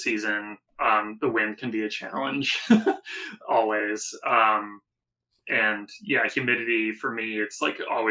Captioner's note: laugh